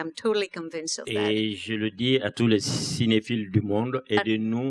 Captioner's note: speaking french